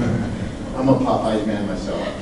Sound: group giggles

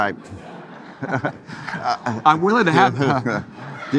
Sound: audience laughing

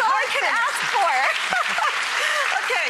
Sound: audience applause

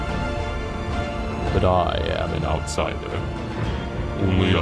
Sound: voice becomes sinister

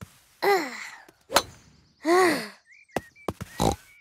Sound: sighs; snort

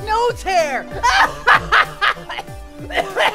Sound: laughs a little bit

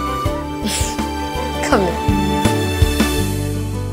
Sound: Bani laughs

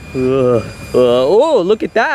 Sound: Luigi yawns

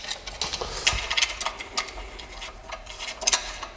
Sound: clacking

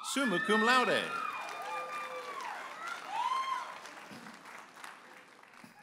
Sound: audience applauding and cheering

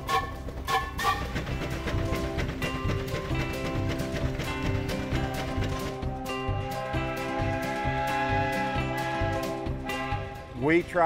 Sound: whistle blows

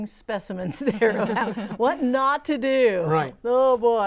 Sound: laughing

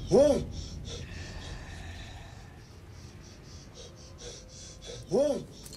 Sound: ghost hisses softly

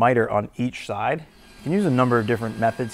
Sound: machine vibrating

